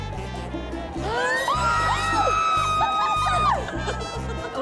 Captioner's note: screams